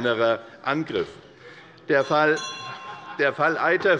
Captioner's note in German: Unruhe - Glockenzeichen des Präsidenten